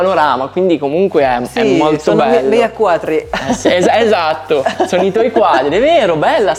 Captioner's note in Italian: risate